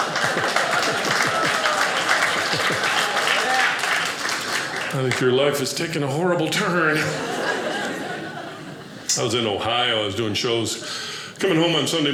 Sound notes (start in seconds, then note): 0.0 audience applauding